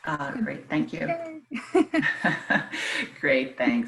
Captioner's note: laughing